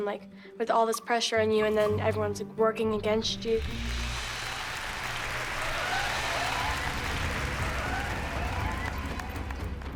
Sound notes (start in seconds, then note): 3.6 crowd cheering, applauding